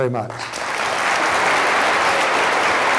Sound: applause

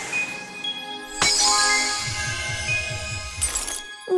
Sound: sparkling tone

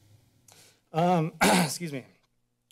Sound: clears throat

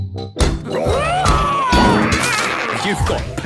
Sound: all roaring

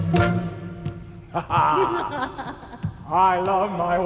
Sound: laughing

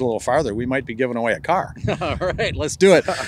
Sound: laughs

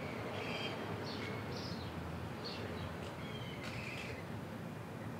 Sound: birds chirping

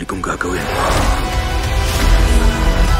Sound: roars

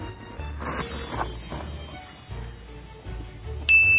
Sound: twinkling

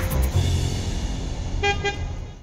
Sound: bus horn

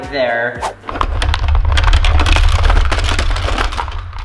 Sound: shuffling

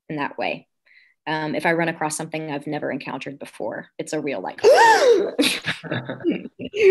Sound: gasp

